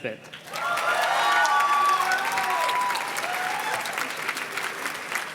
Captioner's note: audience cheers and claps